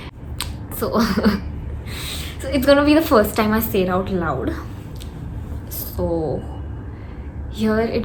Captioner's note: chuckles